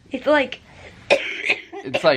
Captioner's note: coughing